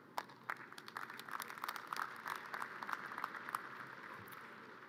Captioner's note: audience cheers and applause